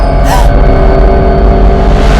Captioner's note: Corrine gasps